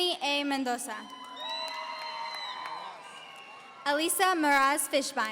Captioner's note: audience cheering